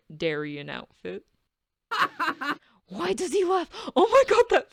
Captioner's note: Darien laughs